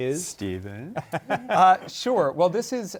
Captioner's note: laughter